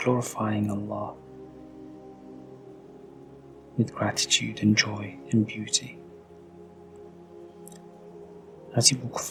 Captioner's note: pause as you listen to the birdsong